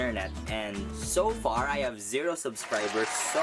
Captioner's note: applause